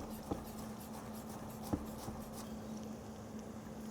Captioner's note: knife slicing